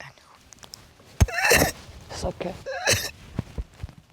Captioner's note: crying